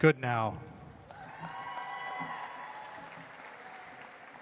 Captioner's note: audience applauds